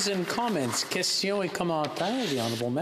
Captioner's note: applause